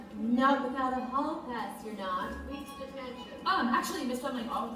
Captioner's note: MS. FLEMING, spoken